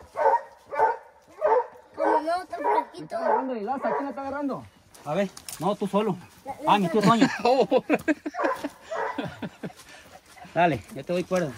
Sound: laughs

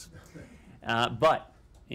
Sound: laughter

